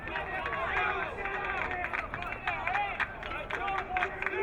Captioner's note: crowd cheering